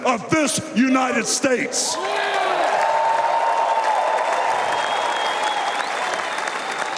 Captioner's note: cheers and applause